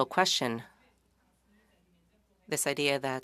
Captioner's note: speaking French